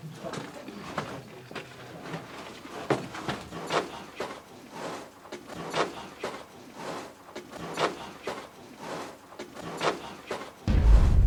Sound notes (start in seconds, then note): 5.2 footsteps crunching; 5.2 wind whooshing